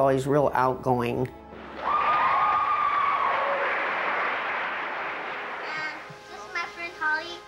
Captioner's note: cheering